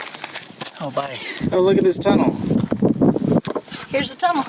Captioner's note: wind whipping